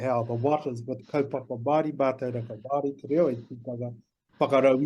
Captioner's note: speaks te Reo Māori